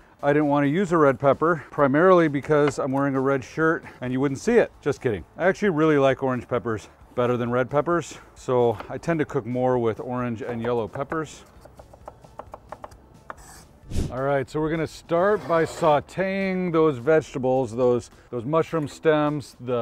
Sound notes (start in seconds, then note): 11.6 knife tapping